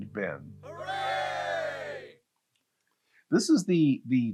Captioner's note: cheering